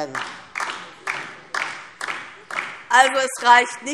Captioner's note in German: Beifall DIE LINKE